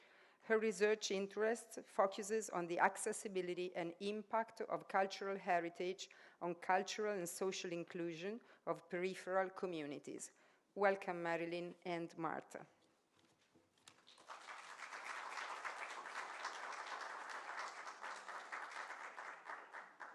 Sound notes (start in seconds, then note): 13.8 applause